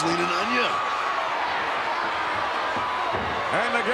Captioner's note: crowd shout